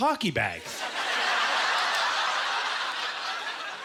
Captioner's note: audience laughter